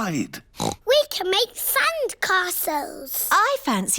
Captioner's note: oinks